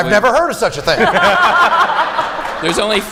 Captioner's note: laughter